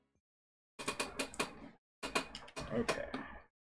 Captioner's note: chair creaking